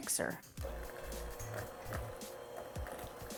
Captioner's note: mixer buzzes; upbeat music